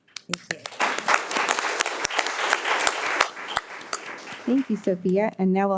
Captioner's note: all applauding